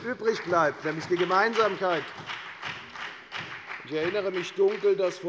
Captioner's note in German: Beifall bei der FDP und bei Abgeordneten der SPD